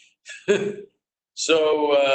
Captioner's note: laughter